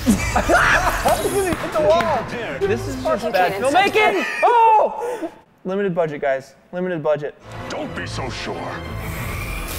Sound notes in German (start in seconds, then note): 0.0 Lachen; 3.8 Anfeuern